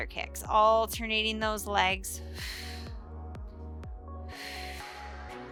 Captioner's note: breathes heavily